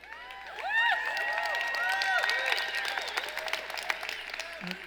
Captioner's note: cheering and applauding